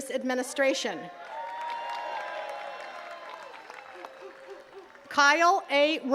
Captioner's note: attendees cheering and clapping